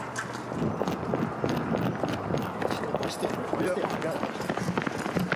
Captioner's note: footsteps running